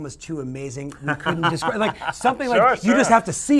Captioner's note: laughter drowns dialogue